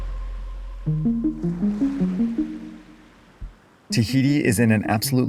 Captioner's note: waves crashing